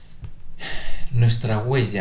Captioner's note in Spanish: suspiro